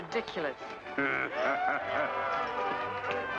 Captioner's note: Cyrus laughs